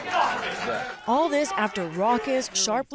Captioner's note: laughter